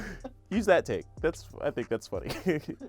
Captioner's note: laughing; laughs